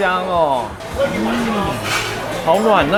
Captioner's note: sound of deliciousness